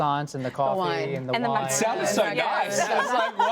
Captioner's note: laughter